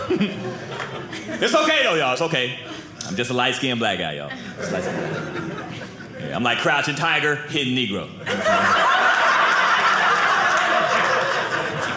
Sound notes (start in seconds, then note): 4.3 audience laughing; 8.2 audience laughing